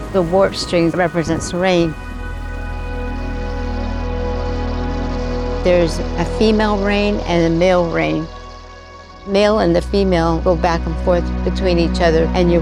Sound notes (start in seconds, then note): 2.4 rain drops pouring down